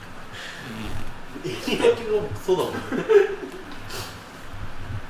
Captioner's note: laughs